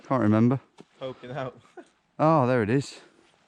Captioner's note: laughs